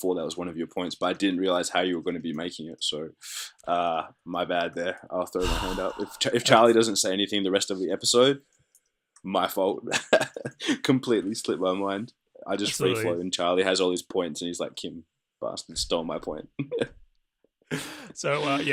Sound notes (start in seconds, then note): 5.4 frustrated exhaling; 9.9 laughs; 16.6 laughter